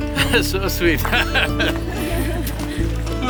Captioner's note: laughs